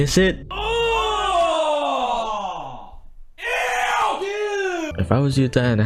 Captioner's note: collective disgust